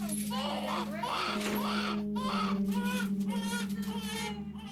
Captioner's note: baby crying